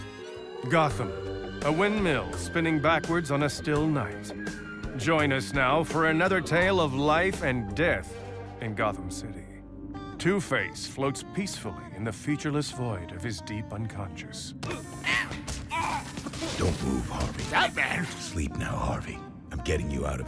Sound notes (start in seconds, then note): 15.6 groaning